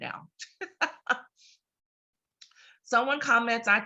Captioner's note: laughs